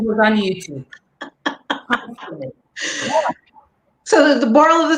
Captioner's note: laughing